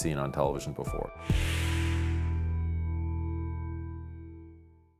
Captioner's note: whooshing